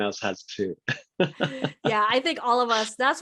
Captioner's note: laughing